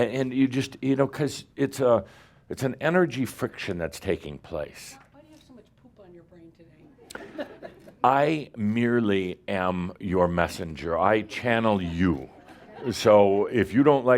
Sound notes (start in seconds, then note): 7.0 some chuckles